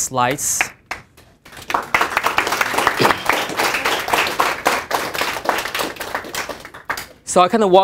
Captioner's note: applause